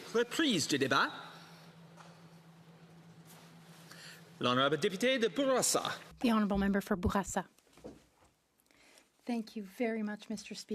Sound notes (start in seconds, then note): 6.9 speaking French